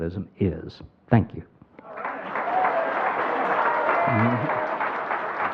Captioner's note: crowd applauding